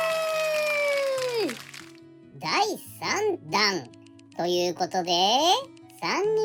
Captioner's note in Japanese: 大歓声